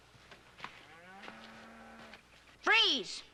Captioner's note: cattle lowing